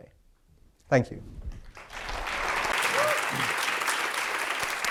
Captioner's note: audience applauds